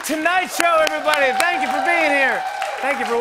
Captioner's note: cheers and applause